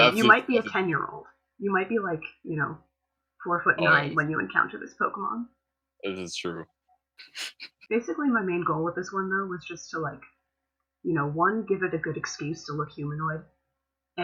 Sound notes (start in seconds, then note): 7.3 laughter